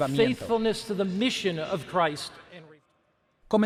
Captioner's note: Hablando idioma extranjero